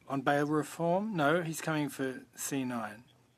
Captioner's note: speaking French